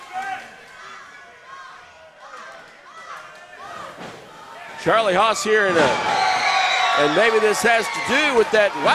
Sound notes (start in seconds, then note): 5.4 slam